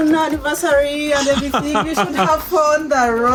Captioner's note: laughing